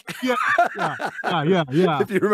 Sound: laughing

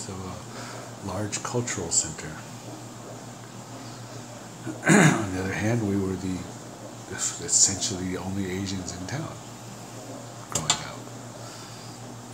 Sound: clears throat

